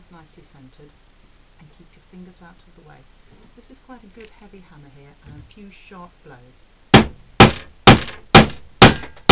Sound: hammering

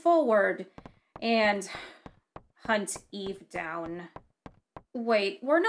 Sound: sigh of regret

